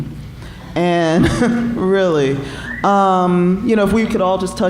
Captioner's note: chuckling